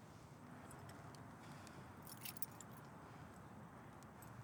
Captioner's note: keys jingling